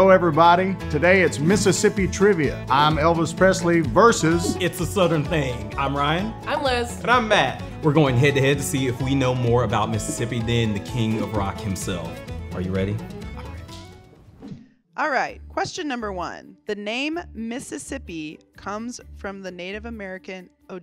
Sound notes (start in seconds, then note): 14.0 whispering